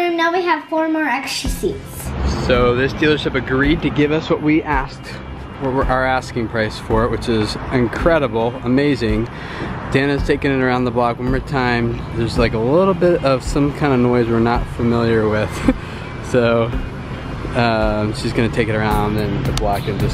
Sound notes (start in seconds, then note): 15.4 chuckling